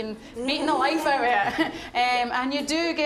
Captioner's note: all laughing